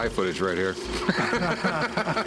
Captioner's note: laughter